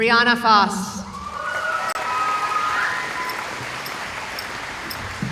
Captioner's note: cheering